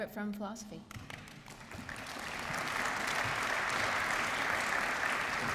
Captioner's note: applause